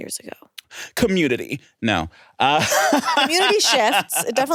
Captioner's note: laughs